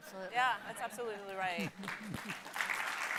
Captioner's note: audience laughing; audience applauding